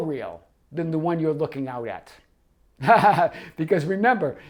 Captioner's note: laughs